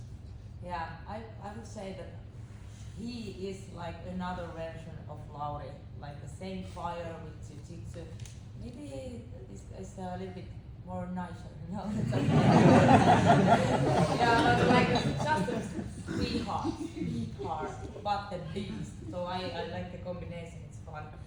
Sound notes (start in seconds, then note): 11.1 laughing